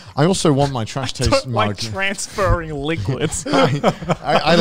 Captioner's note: laughs